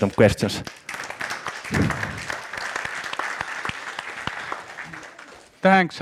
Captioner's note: A round of applause